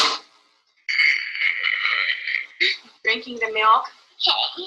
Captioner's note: slurping